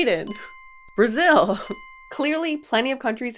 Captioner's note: bell chimes